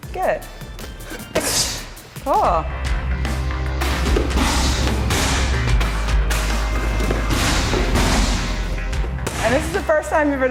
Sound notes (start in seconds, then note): 1.6 kick thuds; 3.8 hushes; 3.8 kicks thud